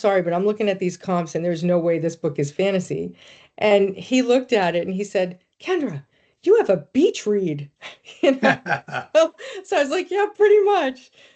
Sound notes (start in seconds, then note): 8.2 laughing